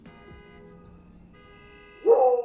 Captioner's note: laughs; car alarm blaring; crickets chirping